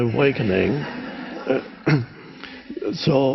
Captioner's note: crowd laughs